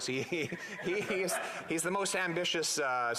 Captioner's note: laughter